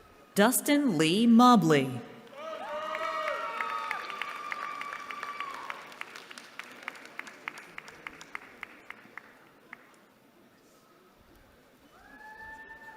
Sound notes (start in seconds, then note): 2.3 cheering